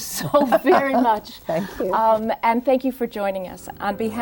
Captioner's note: Marian laughing